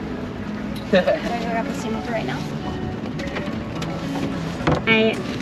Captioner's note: laughing softly